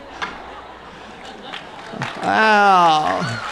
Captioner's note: chuckles; applause